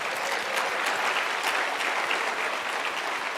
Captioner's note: applause